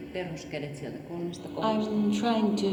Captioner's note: speaking foreign language